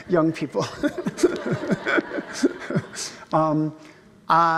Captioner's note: laughs loudly